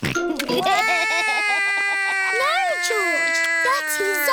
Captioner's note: george laughs; cries